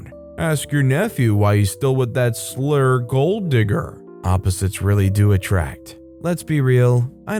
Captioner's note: slur